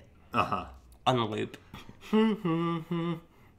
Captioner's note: humming